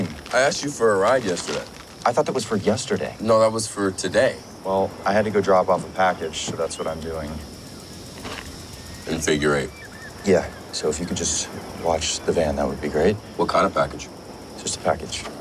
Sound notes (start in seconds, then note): none